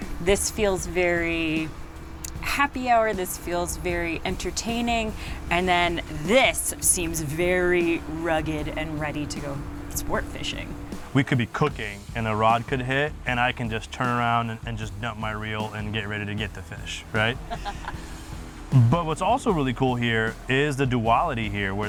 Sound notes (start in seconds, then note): 17.4 chuckling